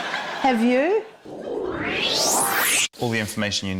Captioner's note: whoosh!